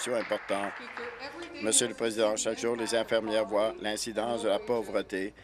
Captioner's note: applause